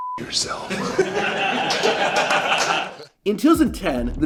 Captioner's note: laughter off-camera